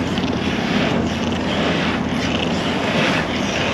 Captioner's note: wheels creaking